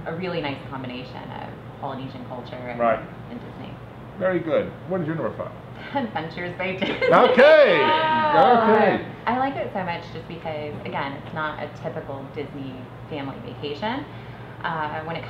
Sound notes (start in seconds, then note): 6.8 laughs